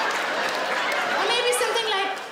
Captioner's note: audience applauding; laughing